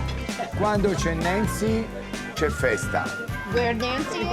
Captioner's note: Dario speaking Italian